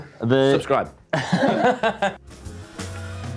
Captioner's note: laughs